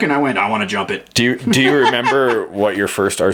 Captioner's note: laughs